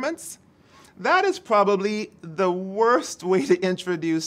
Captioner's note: chuckles